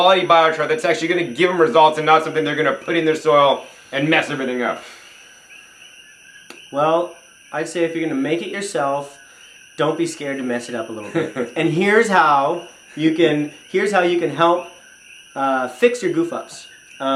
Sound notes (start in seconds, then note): 10.8 chuckles